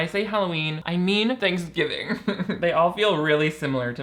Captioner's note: laughs